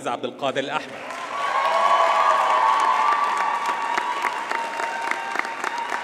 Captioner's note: audience cheers and applauds